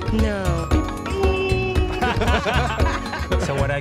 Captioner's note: group laughing